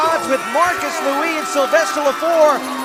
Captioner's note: fans chanting